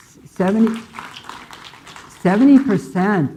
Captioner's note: audience clapping